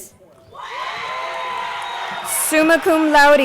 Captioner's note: crowd cheering